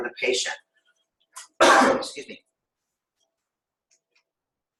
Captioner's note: cough